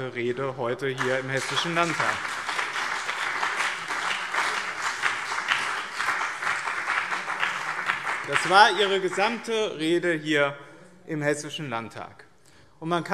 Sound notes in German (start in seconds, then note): 0.8 Beifall BÜNDNIS 90/DIE GRÜNEN und CDU